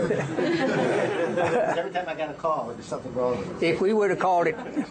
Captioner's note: laughter